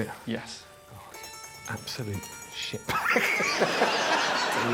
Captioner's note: laughs